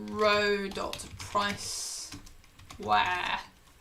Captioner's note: keyboard clicking